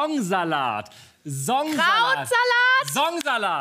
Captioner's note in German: schreit